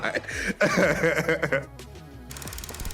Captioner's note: laughing